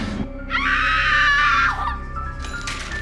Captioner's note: eirie music; girl screaming